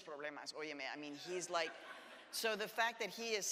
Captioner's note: audience laughs